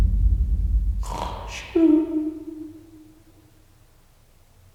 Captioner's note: fake snoring